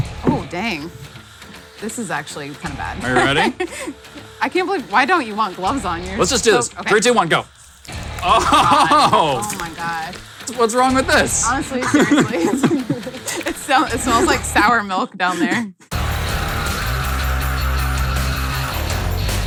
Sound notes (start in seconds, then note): 3.0 laughs; 8.1 laughs; 11.5 laughs; 15.9 heavy rock music